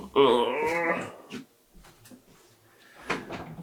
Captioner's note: grunts